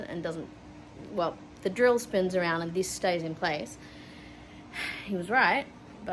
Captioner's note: sigh